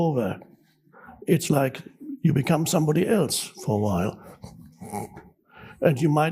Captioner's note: groans